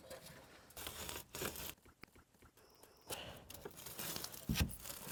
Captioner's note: foam scraping